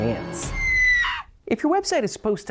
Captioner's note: horrified scream